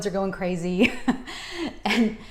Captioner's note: chuckles